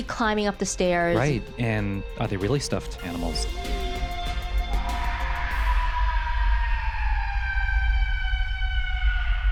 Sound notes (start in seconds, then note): 4.8 screams